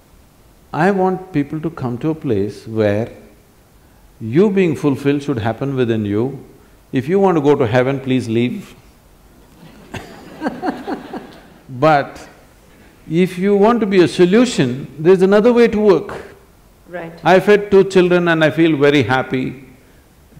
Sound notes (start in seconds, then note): 9.4 laughter